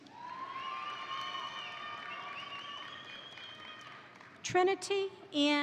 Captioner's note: crowd cheering; crowd applauding